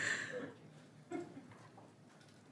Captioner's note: laughter